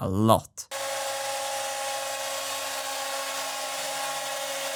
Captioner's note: CNC whirring